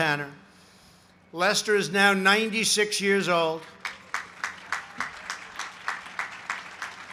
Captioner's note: applause